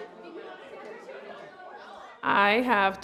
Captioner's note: background chatter